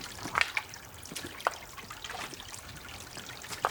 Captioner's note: rocks crunching